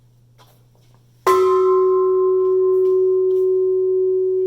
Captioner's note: bell ringing